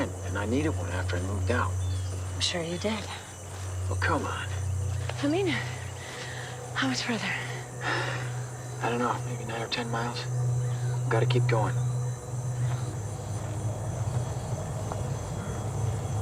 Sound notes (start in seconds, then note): 7.4 sighs